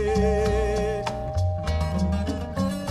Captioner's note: the bell rings